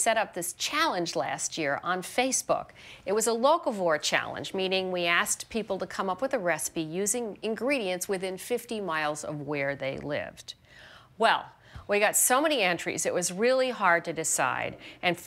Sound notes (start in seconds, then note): none